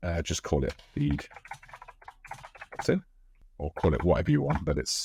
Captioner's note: keyboard typing